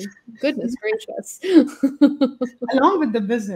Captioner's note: laughs